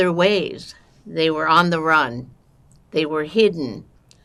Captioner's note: counting